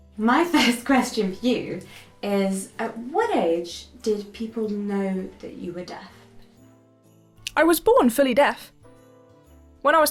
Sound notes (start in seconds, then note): none